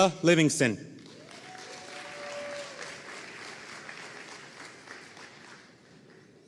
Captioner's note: audience cheering and applauding